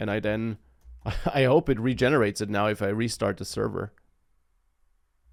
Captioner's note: laughs